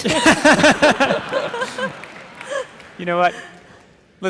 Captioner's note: audience laughing